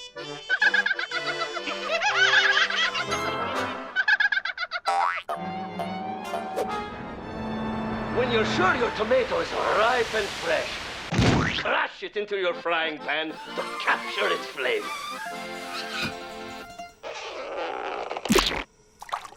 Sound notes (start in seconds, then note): 0.4 laughing; 0.4 onion laughs